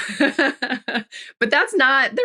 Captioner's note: laughs